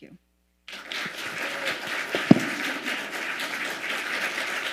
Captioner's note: audience applauding